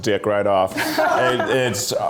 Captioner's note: laughs